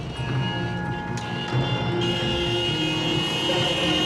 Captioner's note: car horns